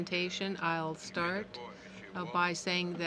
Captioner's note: speaking in french